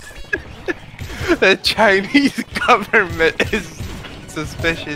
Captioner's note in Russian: с трудом произносит